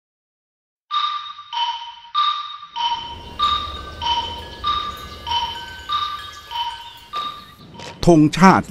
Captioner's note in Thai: เสียงเทียบเวลา